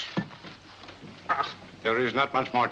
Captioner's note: Moriarity grumbles